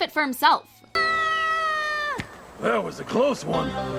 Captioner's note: unconvincing scream